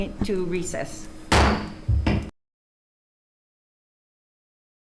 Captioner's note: gavel pounds